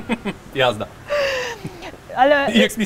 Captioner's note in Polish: śmiech